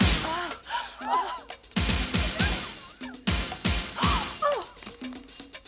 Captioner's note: upbeat pop music playing; women gasping; gasps